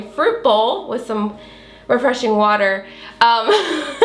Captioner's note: chuckles